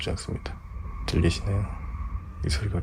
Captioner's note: A subway passing